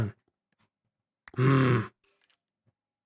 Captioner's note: grunts